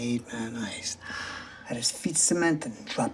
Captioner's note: gasps